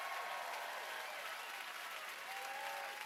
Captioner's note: cheers and applause